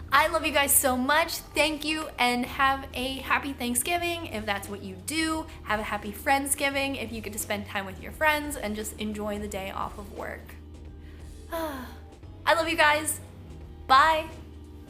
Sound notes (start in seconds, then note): 11.4 sigh